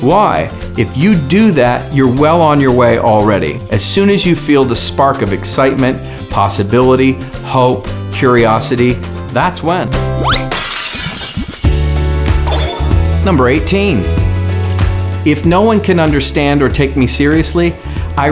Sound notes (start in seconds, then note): 10.2 glass shattering; 11.3 upbeat music